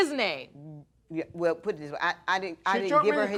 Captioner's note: stuttering